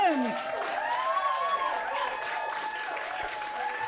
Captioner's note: audience cheering